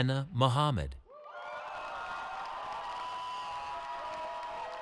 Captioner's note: cheering